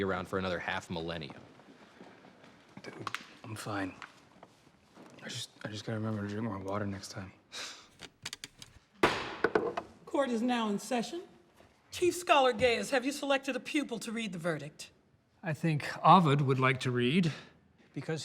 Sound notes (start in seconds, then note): 7.6 sighs; 9.0 bangs gavel